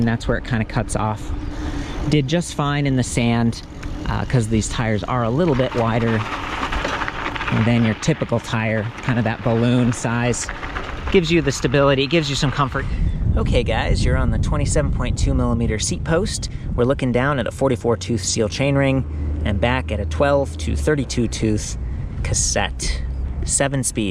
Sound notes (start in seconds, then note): 6.2 bicycle tires crunching